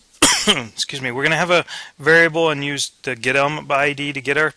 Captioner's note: cough